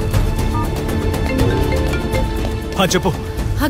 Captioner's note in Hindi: फोन की घंटी बजना